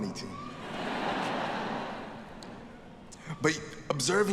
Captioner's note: audience laughing